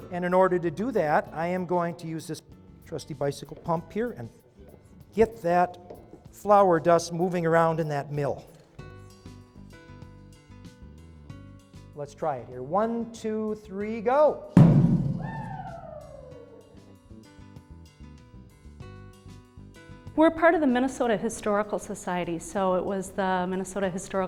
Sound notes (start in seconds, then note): 14.6 poof!